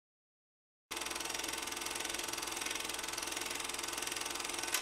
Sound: tape rolling

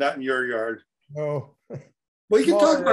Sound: laughs

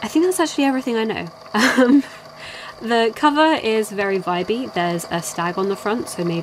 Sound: laughs

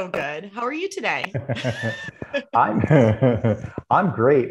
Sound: both practitioners laugh

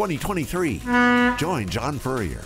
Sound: boat honks

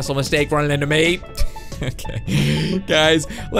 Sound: laughing

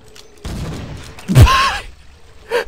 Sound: wheezes

